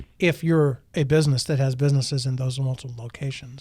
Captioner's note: none